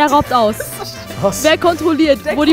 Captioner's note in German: Lachen